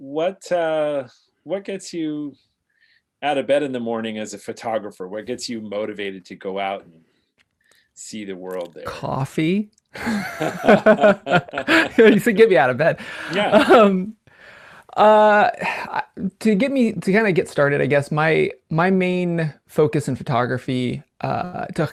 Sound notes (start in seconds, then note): 10.0 laughs